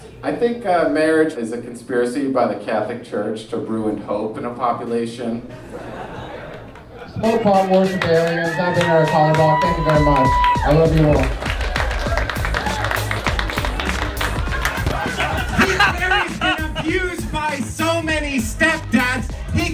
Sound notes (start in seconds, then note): 11.7 audience applauds; 12.6 upbeat techno music